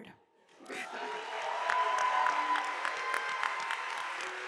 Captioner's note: audience applauding